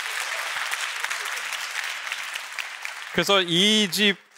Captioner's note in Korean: 박수